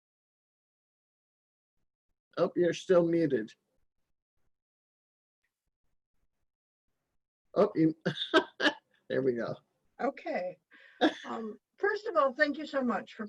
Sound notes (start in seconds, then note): 7.6 laughing